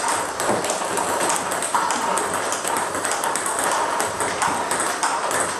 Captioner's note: ball ping pong hitting continues